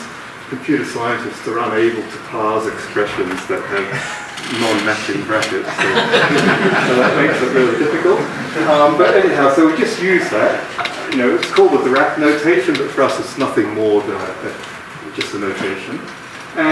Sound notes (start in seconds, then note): 5.6 laughing